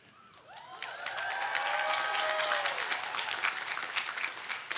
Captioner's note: audience cheering